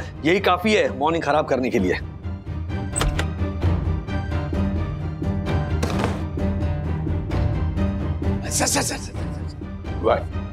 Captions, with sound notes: are enough to ruin my morning. [door opens] Sir.